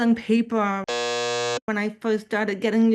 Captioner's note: buzzer sound